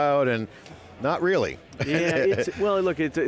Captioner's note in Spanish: Risas